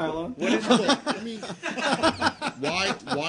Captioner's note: laughter